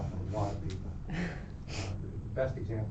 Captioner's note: laughs